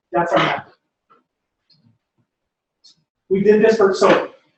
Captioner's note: pause